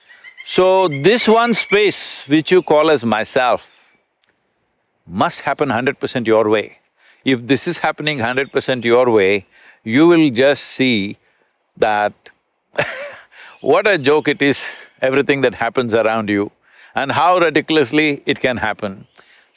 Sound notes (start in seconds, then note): 12.8 laughs